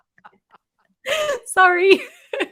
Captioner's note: laughter